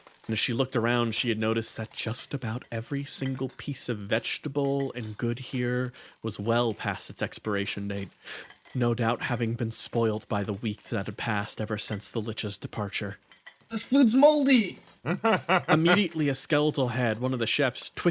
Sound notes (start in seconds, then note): 15.0 laugh